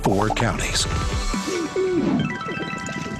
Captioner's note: cooing